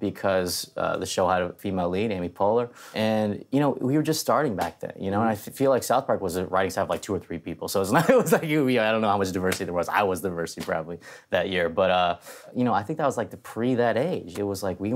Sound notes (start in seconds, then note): 7.9 laughs